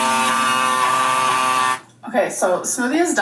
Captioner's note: blender whirring